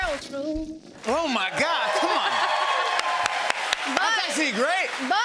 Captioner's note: cheers and applause